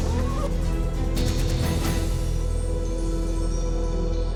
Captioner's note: zip creaks